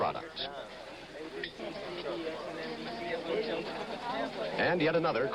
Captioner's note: crowd chatter